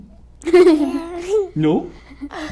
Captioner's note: laughs